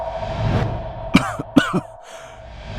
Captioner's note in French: Tousse